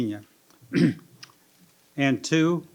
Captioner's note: clears throat